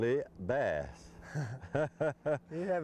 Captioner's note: laughter